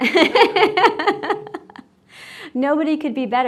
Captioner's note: laughing